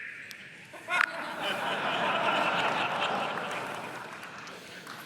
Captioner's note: laughter